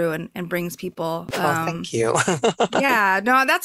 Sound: laughs

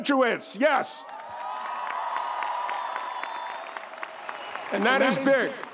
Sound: audience cheering; audience applauding

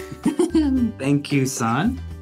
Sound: chuckling

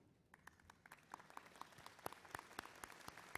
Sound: applause

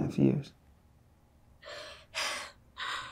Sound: sobs

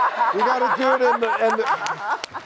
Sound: laughter

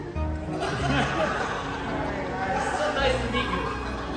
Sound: laughter

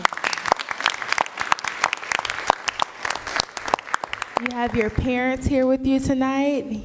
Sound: applause

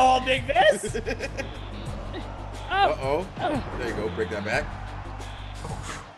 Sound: laugh

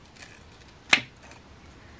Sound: scissor cuts

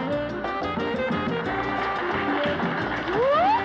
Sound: applause; laughing

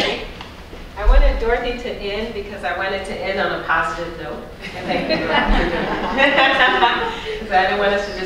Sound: audience laughter

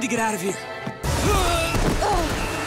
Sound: groaning

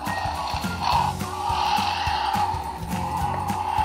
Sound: dragon roars

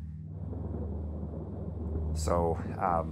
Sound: thunder rumbling

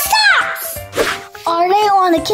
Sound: whoosh

